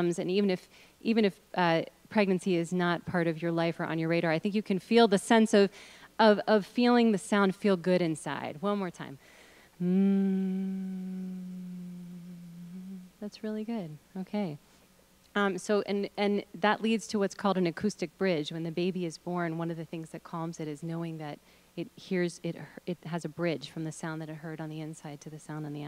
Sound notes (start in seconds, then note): 9.8 humming sounds